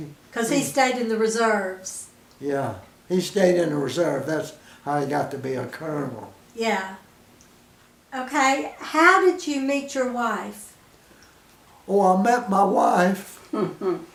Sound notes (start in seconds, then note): 7.3 pause; 13.4 chuckles